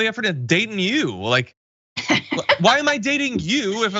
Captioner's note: laugh